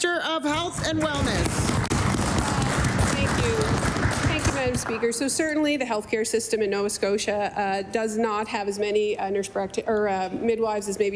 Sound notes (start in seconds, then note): 5.0 applause